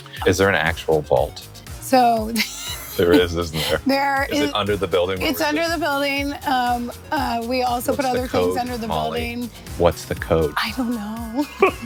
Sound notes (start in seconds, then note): 2.3 laughs; 10.7 laughing